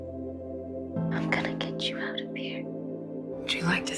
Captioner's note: whispering